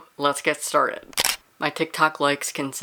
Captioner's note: camera shutter